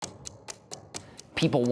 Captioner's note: ticking